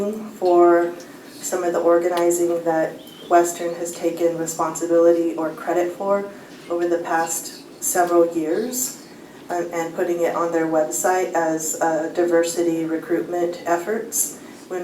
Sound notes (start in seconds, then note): none